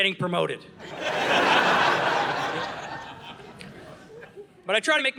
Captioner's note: audience laughing